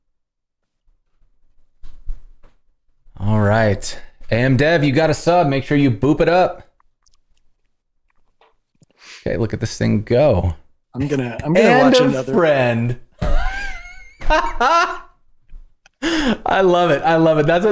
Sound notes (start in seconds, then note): 13.2 laughter